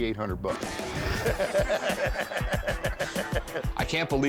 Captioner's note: laughter